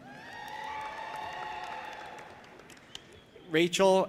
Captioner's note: audience applauding and cheering